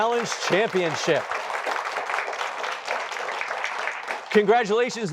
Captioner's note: applause